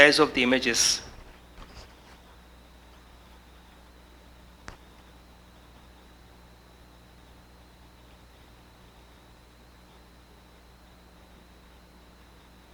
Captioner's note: silence